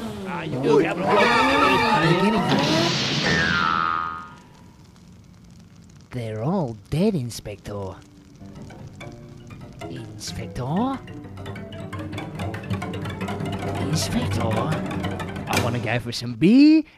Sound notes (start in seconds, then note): 2.5 big crash; 3.1 spring boing; 8.1 creepy music